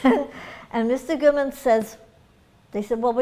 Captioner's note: laughs